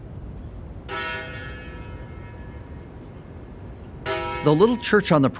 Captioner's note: church bells ringing